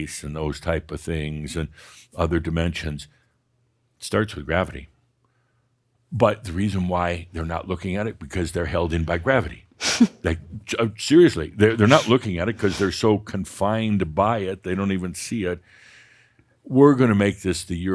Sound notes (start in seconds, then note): 11.7 chuckles